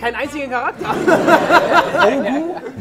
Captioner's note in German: Gelächter